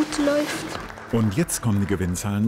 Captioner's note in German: Applaus